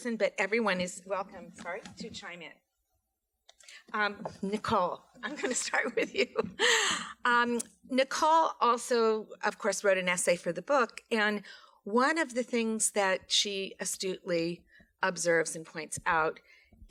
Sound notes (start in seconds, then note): 6.5 laughs